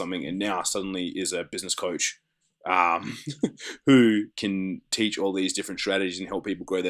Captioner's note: laughs